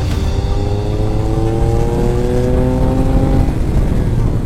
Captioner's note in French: Vrombissement du moteur